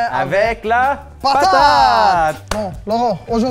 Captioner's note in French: en choeur